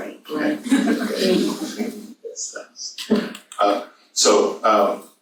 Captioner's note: audience laughs